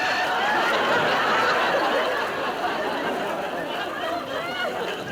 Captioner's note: audience laughter